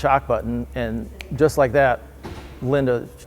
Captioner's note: fingers flicking